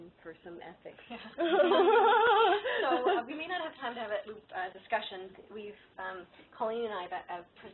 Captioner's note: laughter